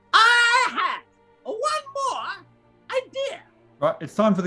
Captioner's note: screeches